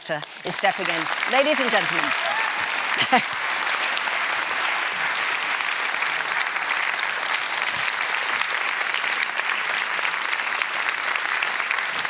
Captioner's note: applause